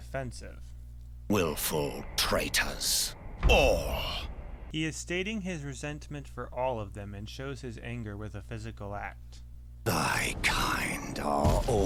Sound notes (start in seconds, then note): 3.1 slams cane down